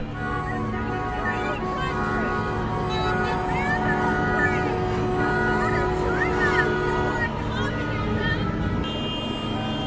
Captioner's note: cars honking